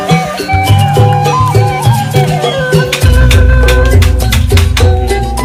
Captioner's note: applause